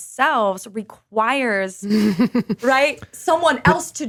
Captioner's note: laughs